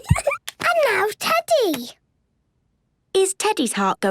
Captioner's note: giggles